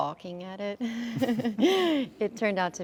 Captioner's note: chuckles